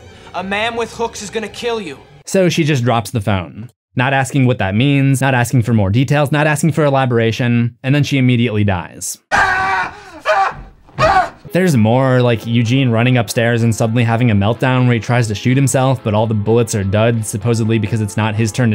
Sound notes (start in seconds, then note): 9.3 screams